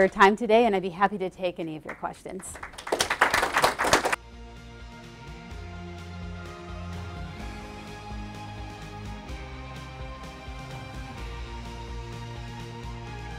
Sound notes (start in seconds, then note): 4.2 applause; 6.6 mellow electronic music